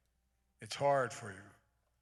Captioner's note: none